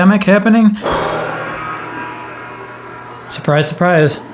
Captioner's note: exhales; gong echoes